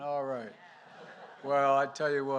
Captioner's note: laughter